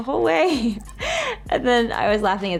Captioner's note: laughs